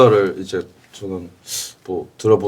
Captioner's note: inhales